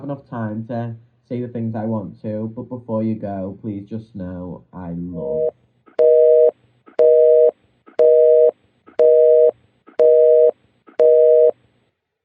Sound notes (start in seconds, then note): 11.0 dial tone sound